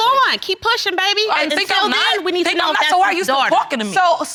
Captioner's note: both arguing